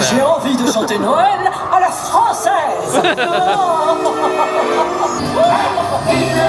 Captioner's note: Clarabelle speaking in French